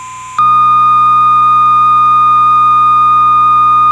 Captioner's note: beeping